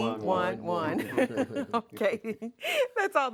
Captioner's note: laughs